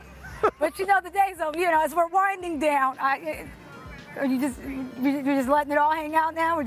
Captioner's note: laughter